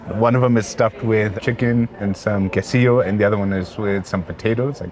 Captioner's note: none